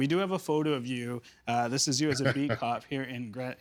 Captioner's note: chuckling